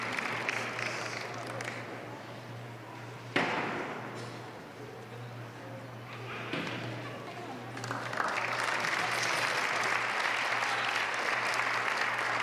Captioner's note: applause